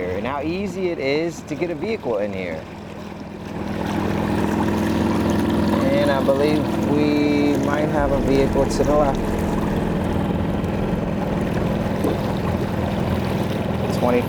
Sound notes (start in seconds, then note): 3.0 motor droning; 3.0 tense music continues; 9.8 motor droning; 9.8 tense music continues